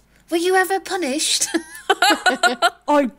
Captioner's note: laughing